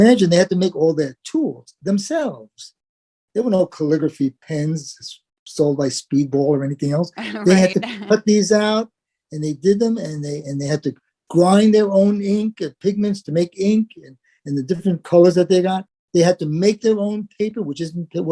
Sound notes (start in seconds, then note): 7.1 laugh